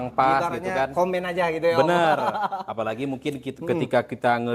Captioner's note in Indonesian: tertawa